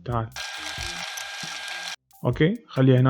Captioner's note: rewinding